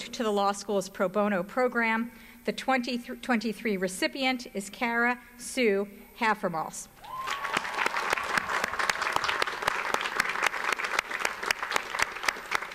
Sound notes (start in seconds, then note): 7.0 audience applauds